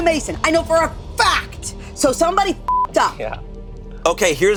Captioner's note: beep